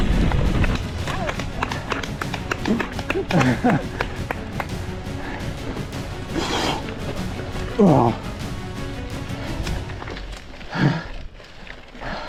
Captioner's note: clapping